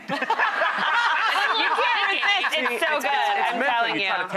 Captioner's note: laughter